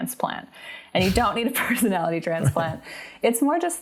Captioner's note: laughs